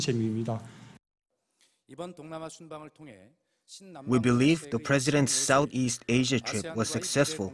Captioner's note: Korean